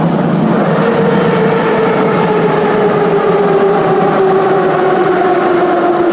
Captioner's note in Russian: торможение - прибытие на станцию